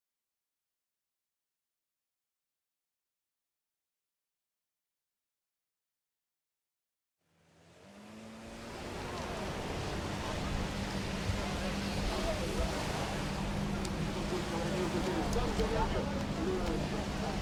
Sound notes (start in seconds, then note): 10.1 boat vrooming